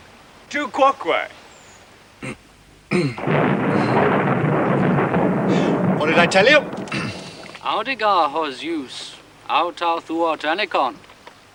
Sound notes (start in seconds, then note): 2.9 clearing throat; 3.1 thunder rolling; 7.3 speaking in latin